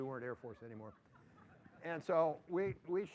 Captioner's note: laughter